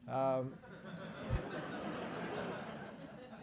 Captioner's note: laugh